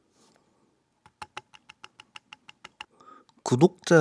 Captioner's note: crack-crack-crack-crack